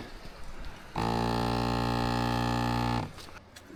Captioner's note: engine revving